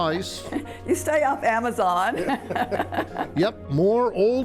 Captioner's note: laughs